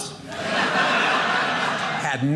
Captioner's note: audience laughing